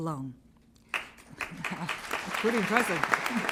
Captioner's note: applause